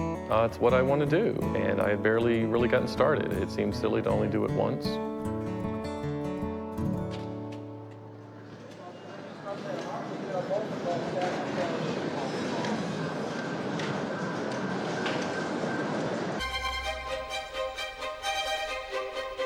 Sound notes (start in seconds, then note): 7.7 door opens to bustling arcade sounds